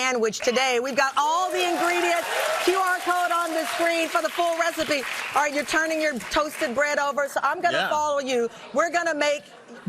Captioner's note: audience cheering